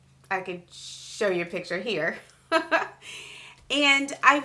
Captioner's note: laughs